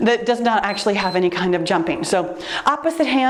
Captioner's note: timer beeps